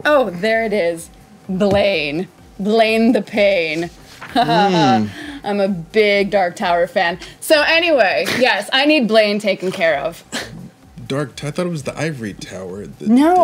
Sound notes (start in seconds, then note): 4.3 laughing